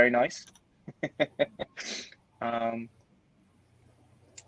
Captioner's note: laughing